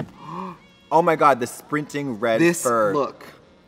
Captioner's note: gasps